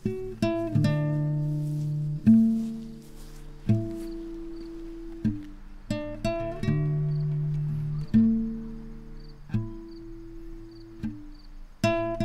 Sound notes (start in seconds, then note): none